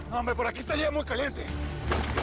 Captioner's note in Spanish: Disparos